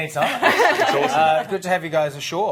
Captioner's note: laughing